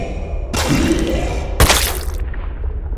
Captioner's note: ??? spits